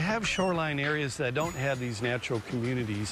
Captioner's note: sounds of nature